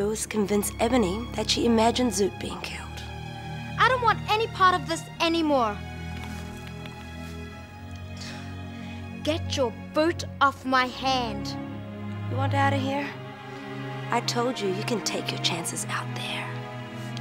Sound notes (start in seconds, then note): 6.0 fingers cracking; 8.5 panting